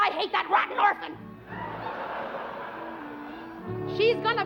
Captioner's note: laughter